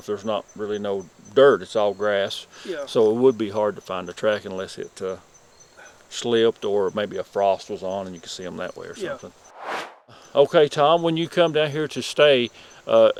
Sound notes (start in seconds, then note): 9.4 air swooshes